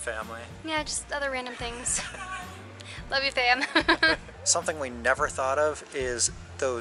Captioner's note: laughs